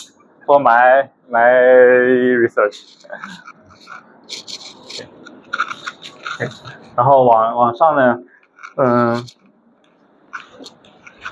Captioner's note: laughs